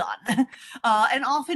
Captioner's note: chuckles